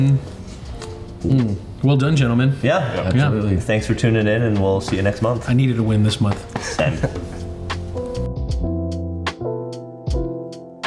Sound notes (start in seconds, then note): 5.9 hand tapping; 6.5 chuckles; 8.2 light music